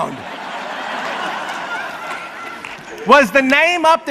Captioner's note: audience laughs